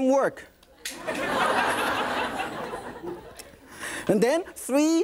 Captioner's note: audience laughing